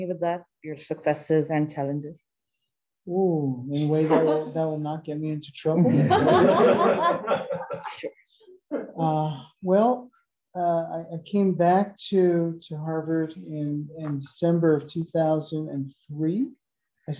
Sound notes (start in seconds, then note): 5.8 laughter